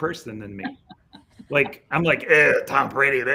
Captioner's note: laughs